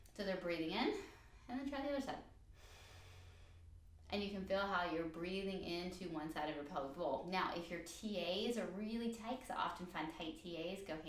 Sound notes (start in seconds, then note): 2.5 inhale